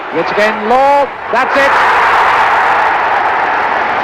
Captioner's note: crowd roaring